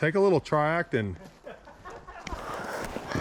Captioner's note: laughing